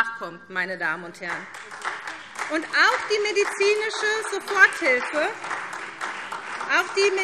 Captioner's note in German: Beifall SPD und vereinzelt DIE LINKE